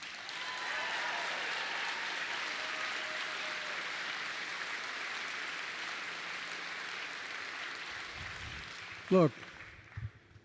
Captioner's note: applause